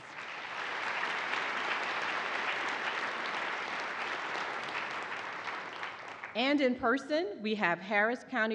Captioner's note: applause